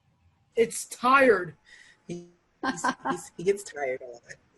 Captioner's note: laughing